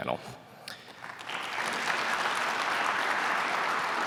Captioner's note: applause